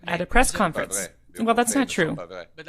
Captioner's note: speaking French